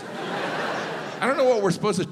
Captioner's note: crowd laughs